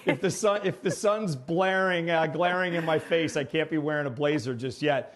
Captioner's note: laughter